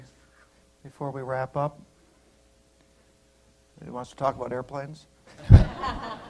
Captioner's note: laughter